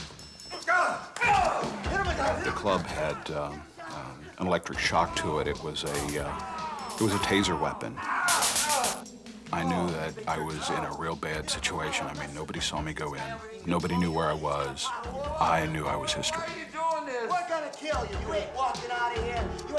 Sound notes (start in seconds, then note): 0.3 thuds, punches; 8.2 zapping sound